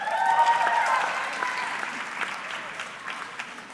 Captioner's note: audience cheering